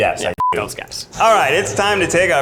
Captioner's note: beeps